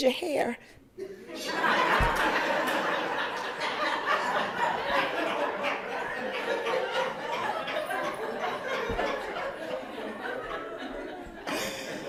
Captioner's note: laughter